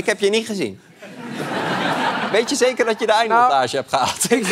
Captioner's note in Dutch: gelach